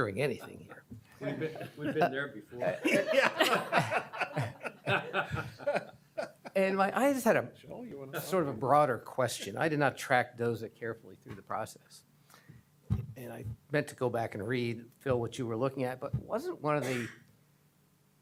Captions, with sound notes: THINK ENSURE'S NOT STRIVE FOR. THAT'S JUST A VERB COMMENT. IT'S JARRED. YOU'RE NOT ENSURING ANYTHING. >> WE'VE BEEN THERE BEFORE. [LAUGHTER] >> I JUST HAD A -- SORT OF A BROADER QUESTION. I DID NOT TRACK DOZA CAREFULLY THROUGH THE PROCESS AND I MEANT